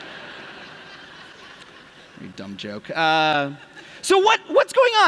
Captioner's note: laughter